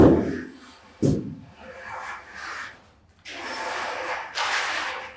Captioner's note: concrete rake thumping